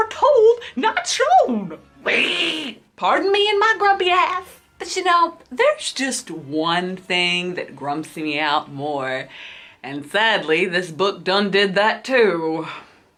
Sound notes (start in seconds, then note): 1.9 growls